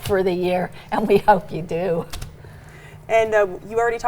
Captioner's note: laughs